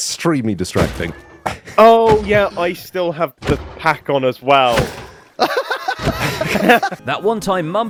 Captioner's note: laughs